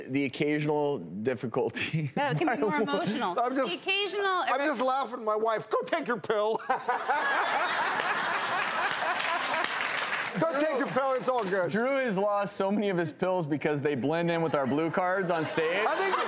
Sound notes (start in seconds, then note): 6.5 laughter; 16.0 laughter